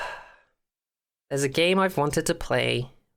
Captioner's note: deep Sigh